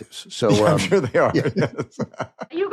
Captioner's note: both laugh